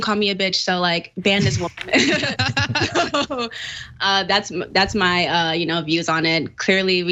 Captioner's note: laugh